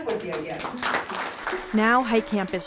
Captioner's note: applause